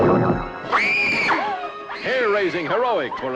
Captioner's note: woman screams